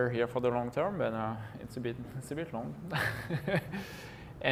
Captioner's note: laughs